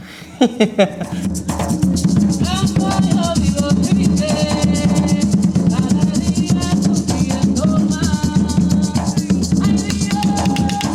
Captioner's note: laughs